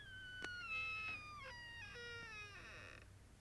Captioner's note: creaking